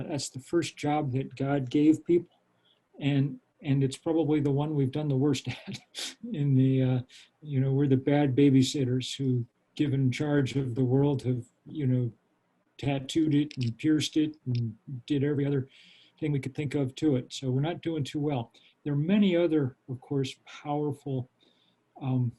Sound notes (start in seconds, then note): 5.4 laughs